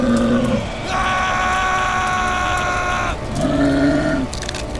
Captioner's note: creature roaring; screaming; creature roaring